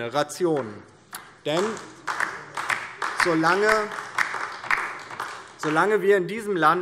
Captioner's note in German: Beifall DIE LINKE